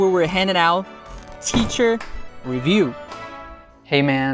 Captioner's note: clap